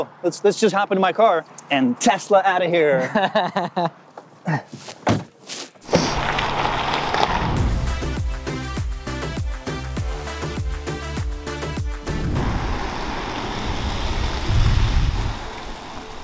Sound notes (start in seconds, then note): 2.9 laughing; 3.0 car engine roaring; 7.8 upbeat music; 12.0 car engine roaring